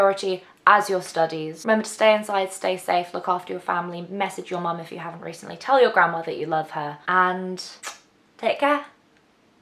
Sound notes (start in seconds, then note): 7.8 kisses loudly